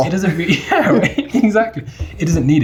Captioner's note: laughing